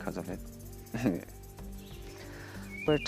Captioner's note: chuckles